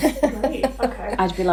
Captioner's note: laughing